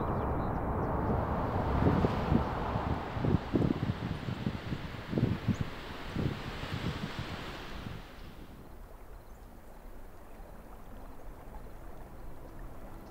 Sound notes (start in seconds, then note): 2.2 wind rustling